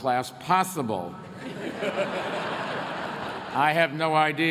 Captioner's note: laughter